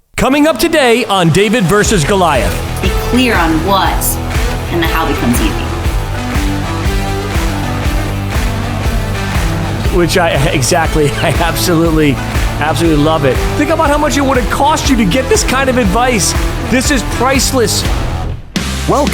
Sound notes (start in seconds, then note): 6.2 upbeat rock music; 10.0 chuckling